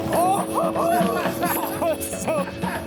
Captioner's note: people laughing